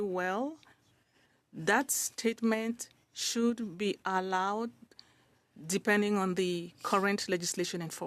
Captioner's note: speaking French